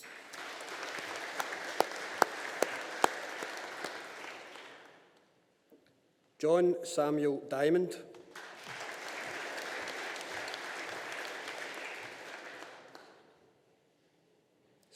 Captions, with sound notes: (AUDIENCE APPLAUDING) John Samuel Diamond. (AUDIENCE APPLAUDING)